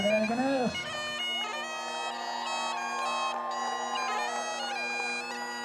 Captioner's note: cheers; bagpipes playing